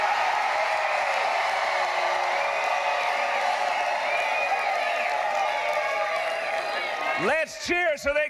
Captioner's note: cheering and applause